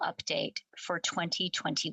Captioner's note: speaking French